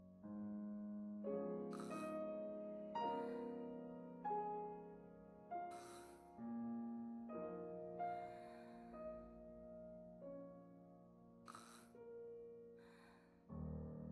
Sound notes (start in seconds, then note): 4.4 gasps